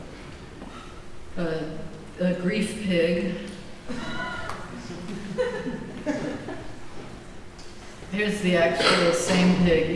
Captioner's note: laughter